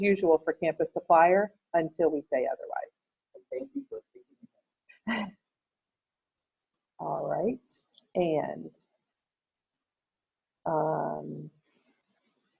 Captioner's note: laughs